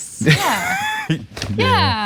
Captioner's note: laugh